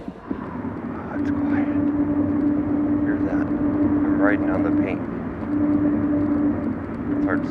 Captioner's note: tire Sounds